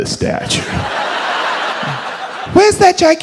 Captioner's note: audience laughs